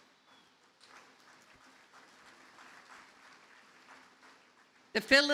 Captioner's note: audience applauding